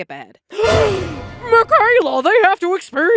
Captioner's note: gasp